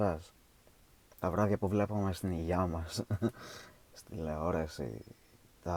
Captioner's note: laughs